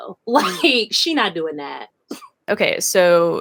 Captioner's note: laughs